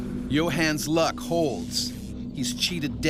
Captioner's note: voiceover